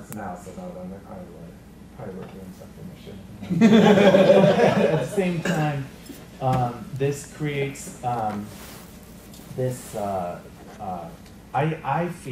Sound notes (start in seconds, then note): 3.4 laughter